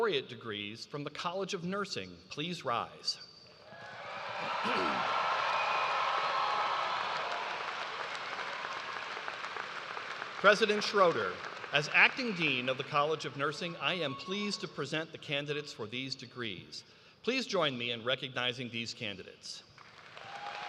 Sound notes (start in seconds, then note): 0.0 applause; 7.7 cheers and applause